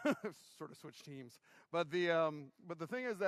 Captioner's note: laughter